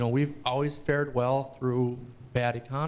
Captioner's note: none